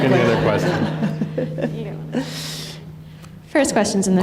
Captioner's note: laughter